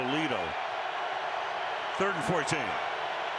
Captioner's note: cheering